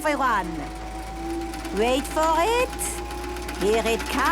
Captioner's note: super toaster vibrating; clicks